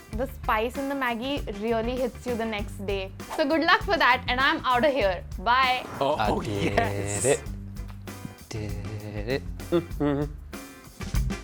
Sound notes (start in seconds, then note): 9.6 hums